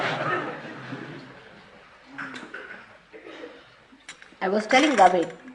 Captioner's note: laughter